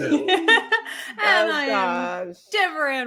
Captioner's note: laughs